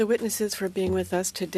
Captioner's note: speaking French